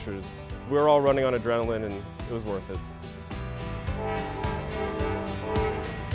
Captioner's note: horn